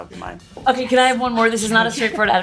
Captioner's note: giggles